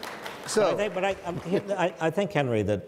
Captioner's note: audience laughs; audience applauds